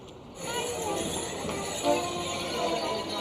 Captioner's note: bells jingling; people chattering